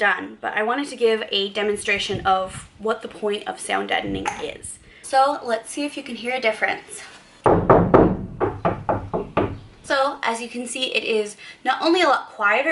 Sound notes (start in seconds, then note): 7.4 knocking